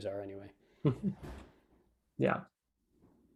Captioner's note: laughs